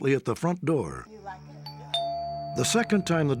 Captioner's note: doorbell rings